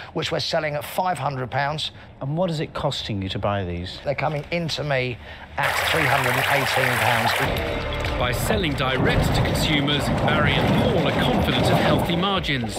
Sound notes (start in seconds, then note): 5.6 loud water noise